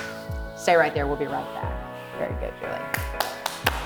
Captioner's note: clap; clapping